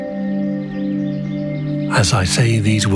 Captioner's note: gentle music; birds chirping